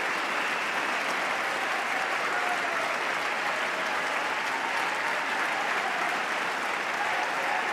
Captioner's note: applause